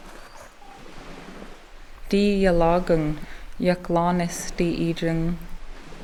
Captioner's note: in Haida language